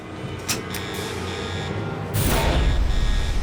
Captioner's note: alarm blaring